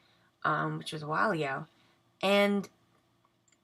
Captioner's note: none